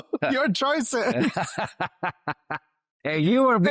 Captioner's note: mumbling; laughs